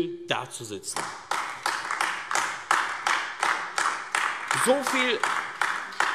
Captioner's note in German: Beifall AfD